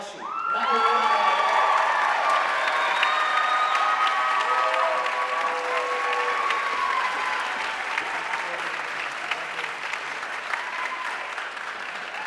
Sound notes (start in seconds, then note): 5.0 audience cheering and applauding